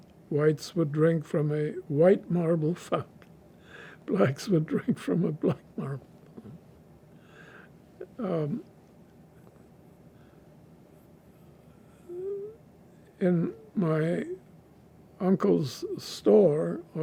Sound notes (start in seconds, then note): 4.7 laughing; 6.1 pauses 6 seconds